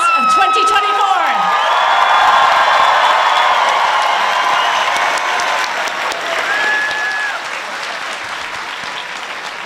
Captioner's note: applause